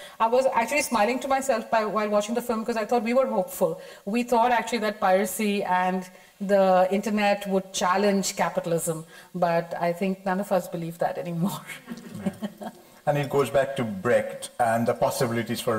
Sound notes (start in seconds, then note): 11.6 light chuckling